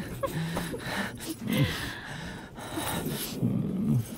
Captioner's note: Laughs